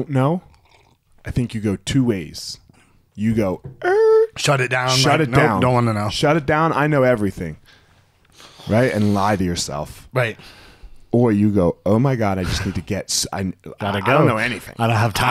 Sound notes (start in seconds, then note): 2.3 screeching